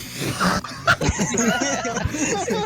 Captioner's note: laughter